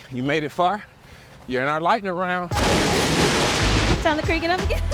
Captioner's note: lightning strikes